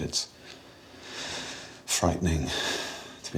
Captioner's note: inhales deeply